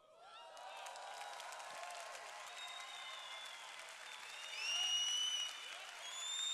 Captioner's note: cheers